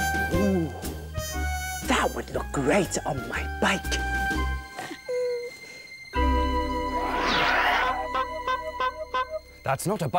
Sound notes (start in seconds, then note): 8.0 honk! Honk! Honk! Honk! Honk!